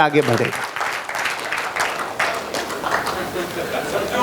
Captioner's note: rounds of applause